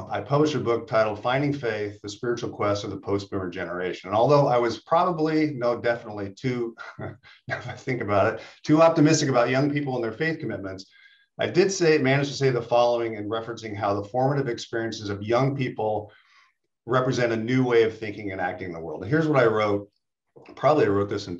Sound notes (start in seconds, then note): 6.7 laughs